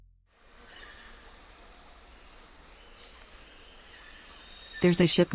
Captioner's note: bugs buzzing; birds chirping